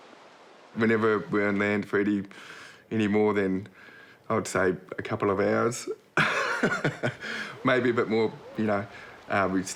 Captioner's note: chuckles